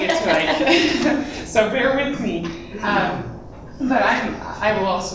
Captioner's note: laughter